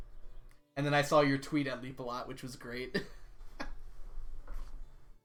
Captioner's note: laughs